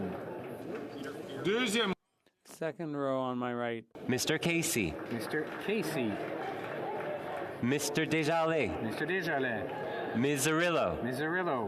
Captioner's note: calling of recorded vote